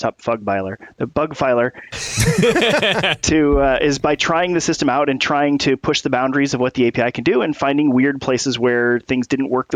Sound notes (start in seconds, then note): 1.9 laughter